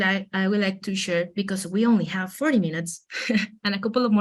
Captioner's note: chuckles